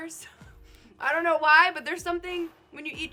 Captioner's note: laughing